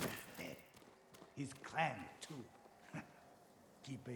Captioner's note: laugh